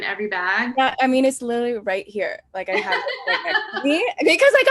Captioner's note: laughs